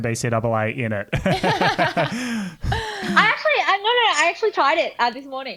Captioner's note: laughing